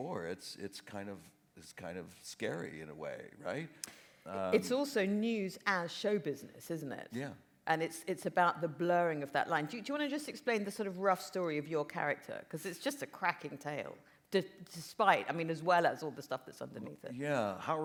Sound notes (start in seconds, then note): none